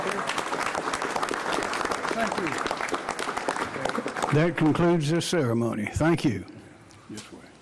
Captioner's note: applause